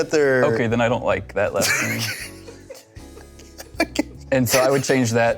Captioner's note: laughing